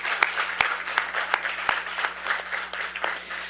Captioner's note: applause